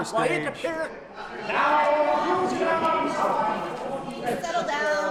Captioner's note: loud background chattering